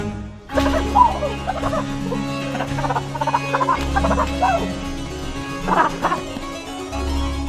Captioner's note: crazy whoops and laughter